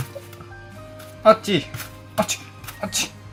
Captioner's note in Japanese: あっちぃ！